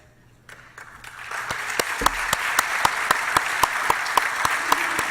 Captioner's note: applause